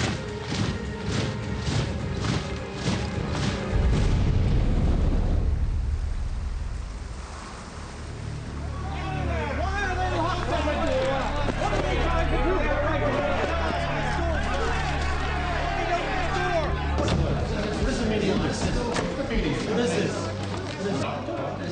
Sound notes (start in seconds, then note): 0.2 dramatic music; 8.6 men shouting; 9.8 men chattering